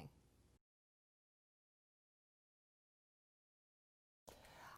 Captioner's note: no Sound Present